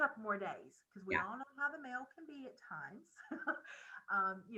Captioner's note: chuckles